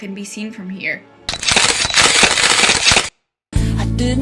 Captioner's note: camera shutter clicks